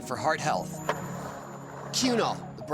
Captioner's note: skateboard wheels roaring